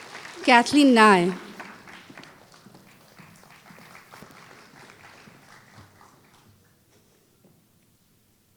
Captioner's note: applause